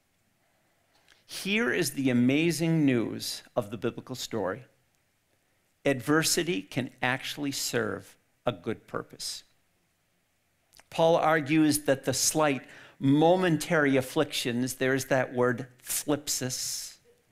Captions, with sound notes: Here is the amazing news of the Biblical story. Adversity can actually serve a good purpose. Paul argues that the slight, momentary afflictions, there's that word [speaks in foreign language],